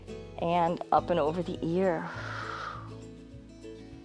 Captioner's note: exhales